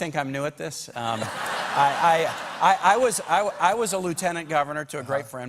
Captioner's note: laughter